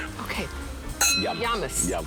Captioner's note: glasses clinking